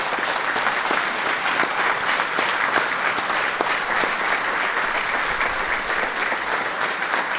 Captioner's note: applause